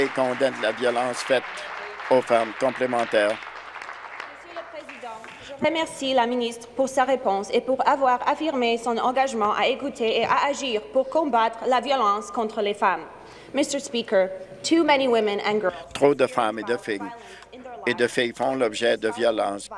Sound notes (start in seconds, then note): 4.9 applause; 7.1 speaking in French